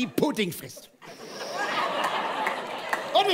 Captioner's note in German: Gelächter